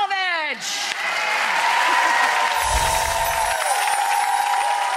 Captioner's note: audience cheers wildly